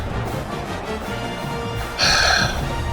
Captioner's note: crowd Noises